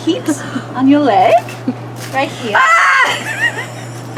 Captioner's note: screams